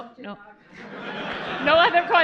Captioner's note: laughter